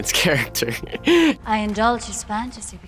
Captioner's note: Charlie laughs